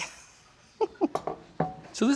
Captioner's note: laughs